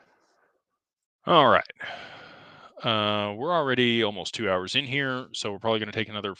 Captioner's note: sighs and gasps